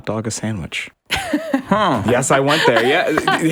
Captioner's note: laughs